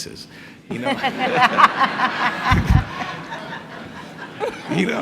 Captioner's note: people laughing